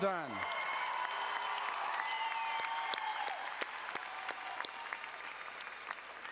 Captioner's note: audience cheering and applauding